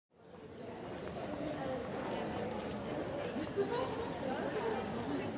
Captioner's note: background chatter